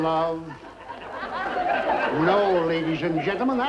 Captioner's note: audience laughing